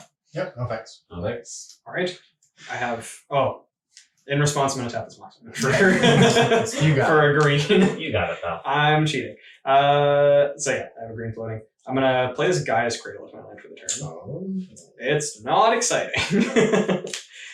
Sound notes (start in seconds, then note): 9.8 all laughing